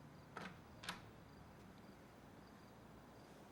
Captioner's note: door clicks